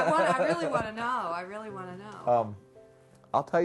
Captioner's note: laughing